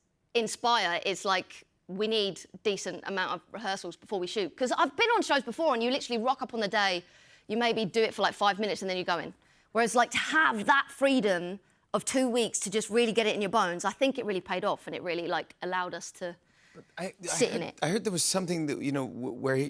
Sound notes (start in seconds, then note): none